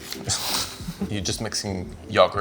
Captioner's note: Yotam laughs